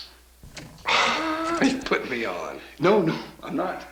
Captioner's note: laughs